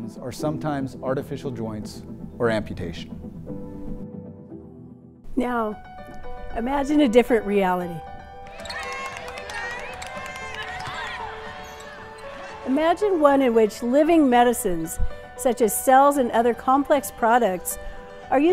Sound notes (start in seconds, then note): 8.2 light upbeat music; 8.4 crowd cheering